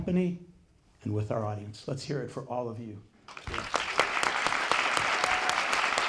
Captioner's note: applause